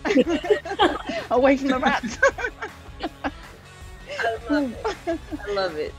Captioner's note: laugh